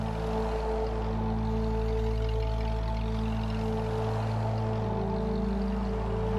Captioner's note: car engine rumbling